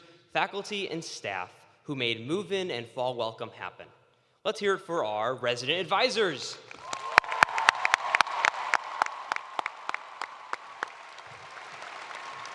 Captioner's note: cheers and applause